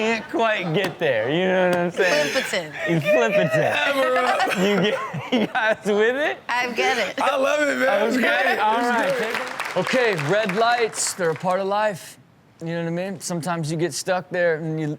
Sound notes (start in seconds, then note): 8.6 audience clap